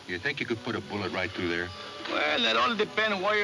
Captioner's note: none